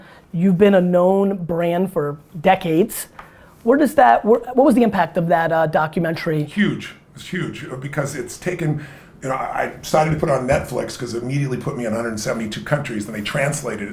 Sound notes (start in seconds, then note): none